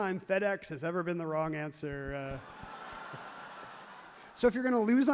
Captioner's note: crowd laughs loudly